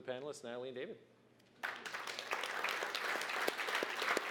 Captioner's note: applause